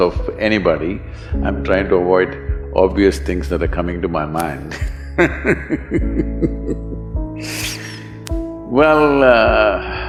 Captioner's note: laughs